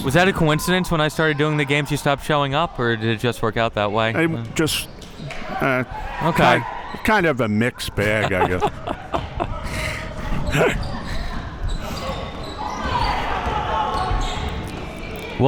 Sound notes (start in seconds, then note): 7.9 both laughing